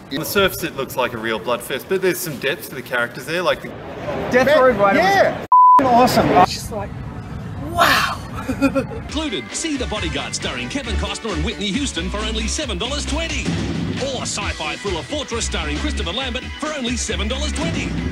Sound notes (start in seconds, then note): 7.7 laughs